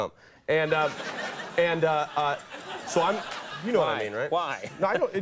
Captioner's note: audience laughs